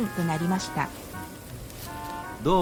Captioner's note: sound of wind and leaves